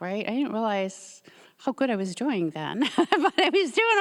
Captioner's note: laughs